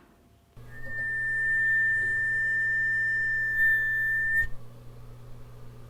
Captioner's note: high-pitched screech